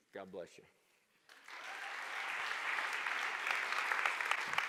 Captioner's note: applause